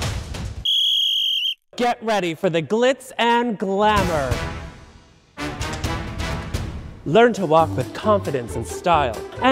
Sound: whistle

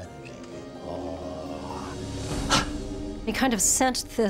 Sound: forceful exhale

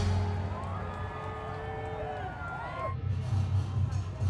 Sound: cheering; music in the background

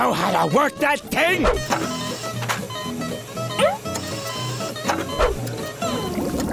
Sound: beeping

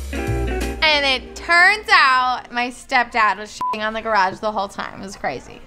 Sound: beep

